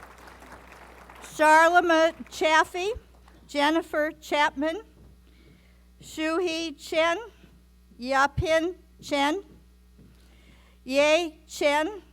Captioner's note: applause